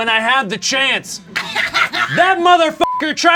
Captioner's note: Bazanka laughs